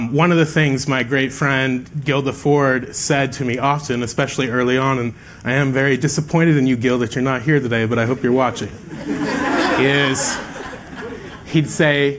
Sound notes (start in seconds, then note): 8.4 laughter